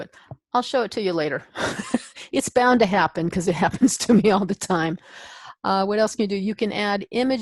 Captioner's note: chuckle